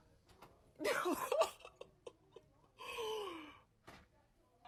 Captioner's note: laughs